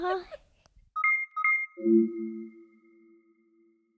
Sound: laughing; device chiming

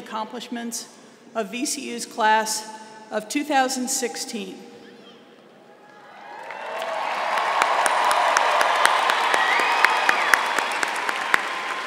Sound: applause

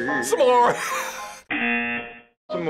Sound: laughs

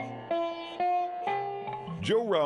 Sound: plucking sounds

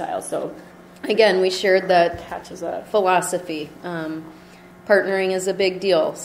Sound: voiceover

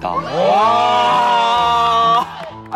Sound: clap cheer

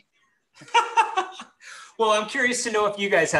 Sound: laughs

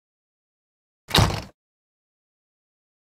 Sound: sound of door shut

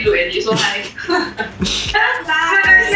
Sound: laughs

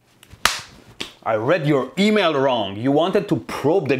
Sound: slap Sound

